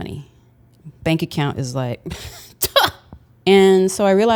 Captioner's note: laughs